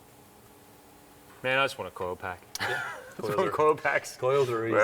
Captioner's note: laughs